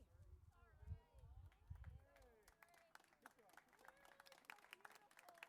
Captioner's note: crowd applauding